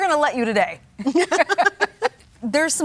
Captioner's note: judges laugh